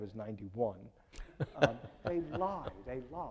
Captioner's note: laughing